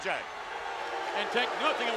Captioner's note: audience booing